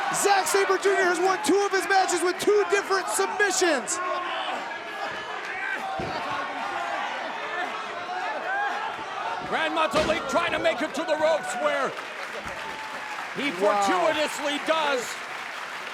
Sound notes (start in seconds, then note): 4.2 crowd cheering